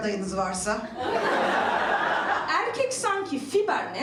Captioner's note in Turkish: Gülüşmeler